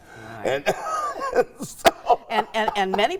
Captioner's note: laughing